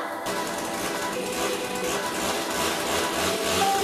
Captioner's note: chainsaw motor whirring